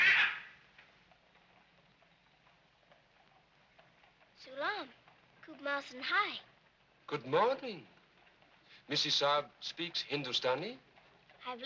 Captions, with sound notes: (parrot squawking) (speaking in foreign language) Good morning. Misses Sara speaks Hindustani?